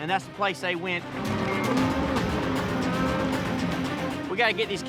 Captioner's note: mooing